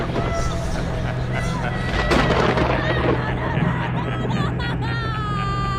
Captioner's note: crying